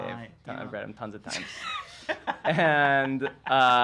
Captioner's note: laughs